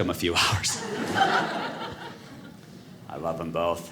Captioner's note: audience laughing